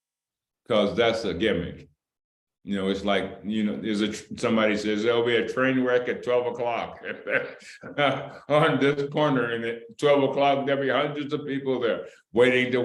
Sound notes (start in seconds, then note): 6.8 laughter